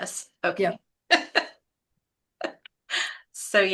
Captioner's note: chuckles